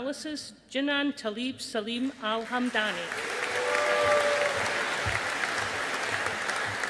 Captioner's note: audience applauding